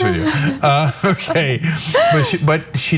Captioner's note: laugh